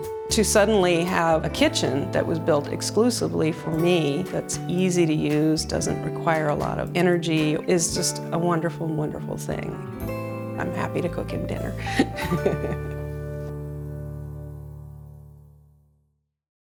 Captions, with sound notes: To suddenly have a kitchen that was built exclusively for me, that's easy to use, doesn't require a lot of energy is just a wonderful, wonderful thing. I'm happy to cook him dinner. (laughs)